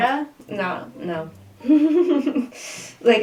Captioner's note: laughter